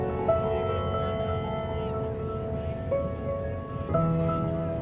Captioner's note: people chattering